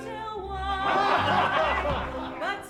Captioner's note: men laugh